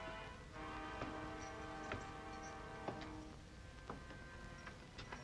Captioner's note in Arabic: موسيقى مشؤومة; خطوات على الدرج